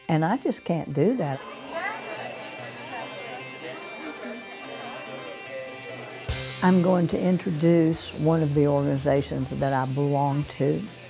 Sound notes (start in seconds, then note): 0.7 upbeat music; 1.0 attendees chattering